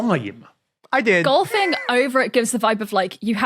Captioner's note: wheezes